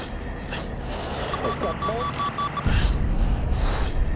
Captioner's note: beeping